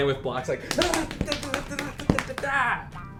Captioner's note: imitating screaming